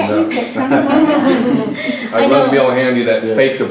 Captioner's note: laughter